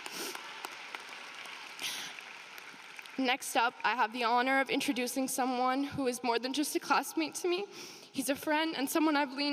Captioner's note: applause